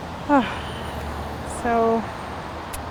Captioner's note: long exhale